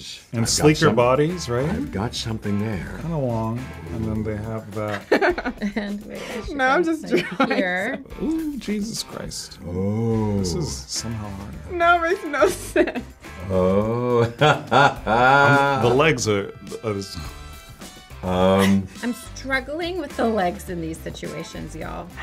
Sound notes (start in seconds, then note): 4.8 laughter